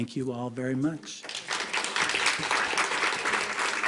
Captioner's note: applause